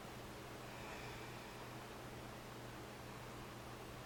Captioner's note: breathing sounds